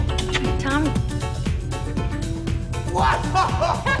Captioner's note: kissing; laughing